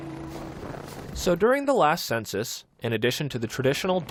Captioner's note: voice-over